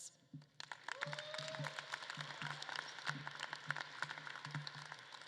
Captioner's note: audience claps and cheers